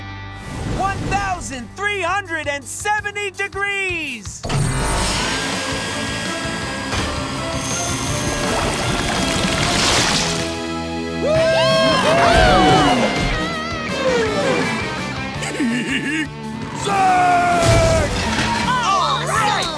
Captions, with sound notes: 1,370 degrees! - Woo hoo! - Yee haw! [laughing] Zeg! - Alright! - Awesome!